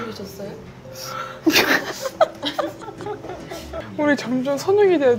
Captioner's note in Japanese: 爆笑